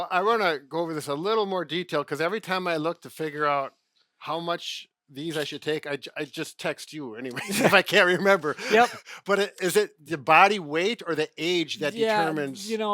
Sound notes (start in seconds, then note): 7.3 laughing